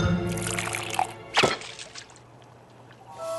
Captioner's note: clunk